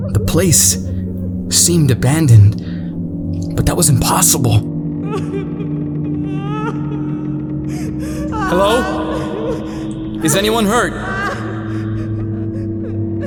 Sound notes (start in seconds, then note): 5.0 women crying